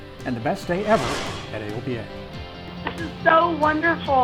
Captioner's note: whooshing